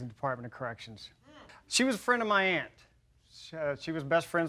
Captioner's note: laughs